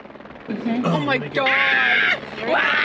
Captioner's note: helicopter approaching; screaming